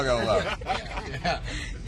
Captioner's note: laughing